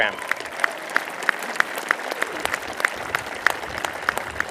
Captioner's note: applause